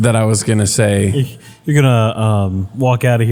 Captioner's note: laugh